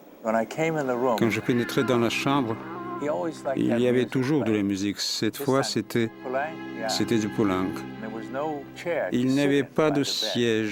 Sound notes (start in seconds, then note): 5.9 foreign spoken audio